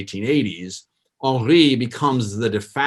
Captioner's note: foreign language